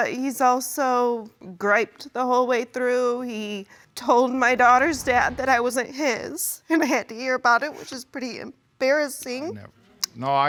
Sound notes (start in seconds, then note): none